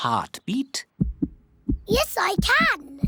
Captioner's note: heart thumps